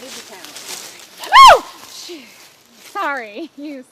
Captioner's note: scream